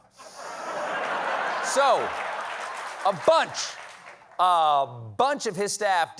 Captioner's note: laughter